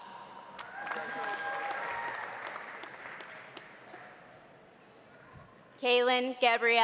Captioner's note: audience applauding